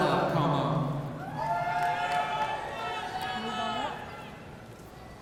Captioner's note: audience cheering